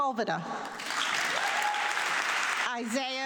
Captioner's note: audience clapping